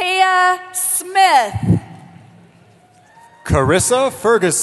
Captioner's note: cheering